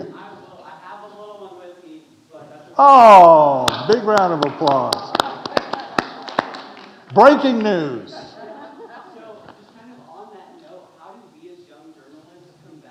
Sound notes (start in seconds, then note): 5.8 speakers and audience applauding; 8.0 audience laughing